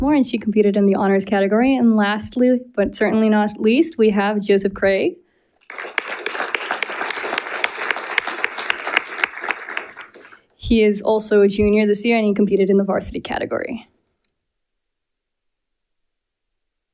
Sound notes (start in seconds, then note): 5.6 audience applauding